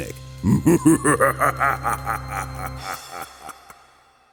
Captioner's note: laughing